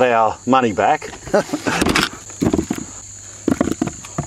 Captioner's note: laughs